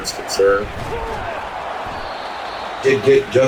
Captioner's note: crowd Noises